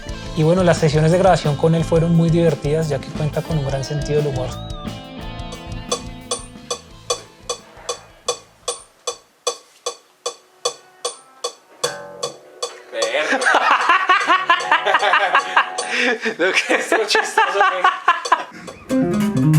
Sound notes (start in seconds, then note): 6.0 metronome sound; 13.0 laughs